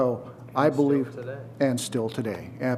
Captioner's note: someone speaking off mic